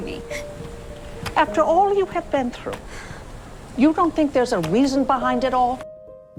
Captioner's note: voiceover